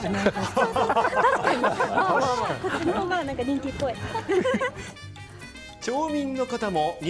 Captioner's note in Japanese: 笑い